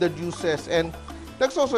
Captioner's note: sizzle